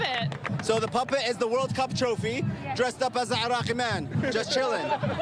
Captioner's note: applause